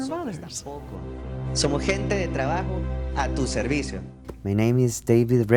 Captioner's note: speaking foreign language